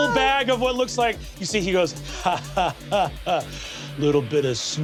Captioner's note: chuckling